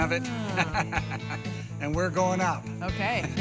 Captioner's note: laughter